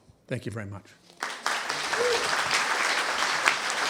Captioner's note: applause